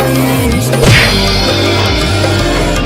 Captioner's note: smack!